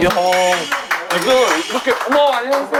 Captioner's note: clap clap; clap clap clap